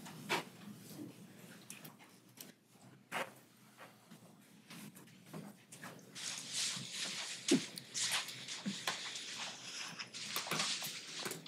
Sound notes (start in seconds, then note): 6.7 footsteps, floorboards creaking